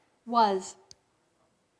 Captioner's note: electronic Voice